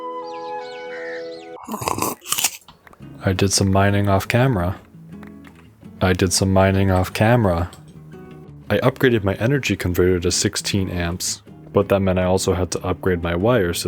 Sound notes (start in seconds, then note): 1.6 bites apple; 1.6 slurps coffee